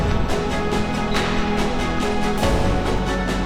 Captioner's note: referee whistle